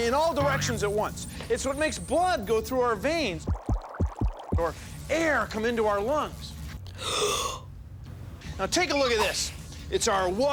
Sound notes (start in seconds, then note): 3.4 heartbeat; 6.9 inhales deeply